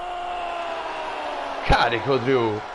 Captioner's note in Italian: urlo